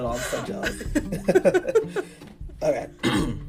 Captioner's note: both laughing